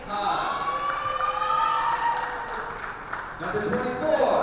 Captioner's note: spectators cheer and applaud